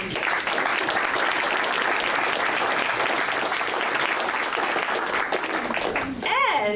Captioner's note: audience applause